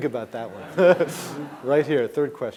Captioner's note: laughing